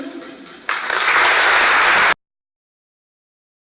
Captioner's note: applause